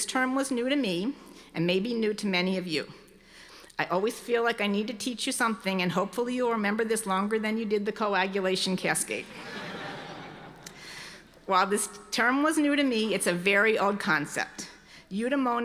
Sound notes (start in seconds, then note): 9.2 audience laughing